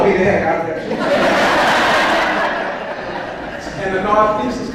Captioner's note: audience laughs